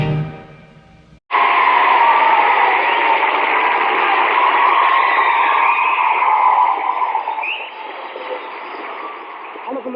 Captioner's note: cheers and applause